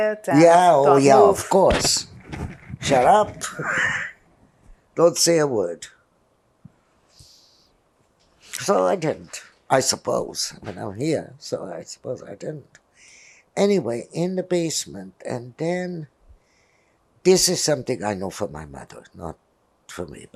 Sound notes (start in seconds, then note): 2.8 laughihg